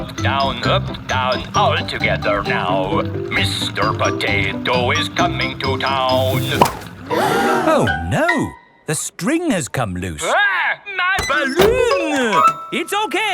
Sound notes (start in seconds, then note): 0.0 horn beeping; 7.0 all gasp